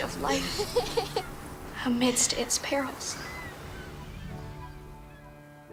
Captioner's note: laughter